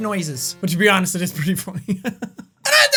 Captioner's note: laughing